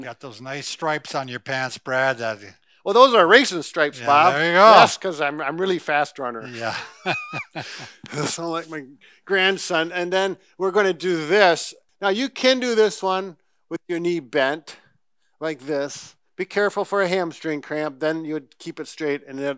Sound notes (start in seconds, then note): 6.4 laughs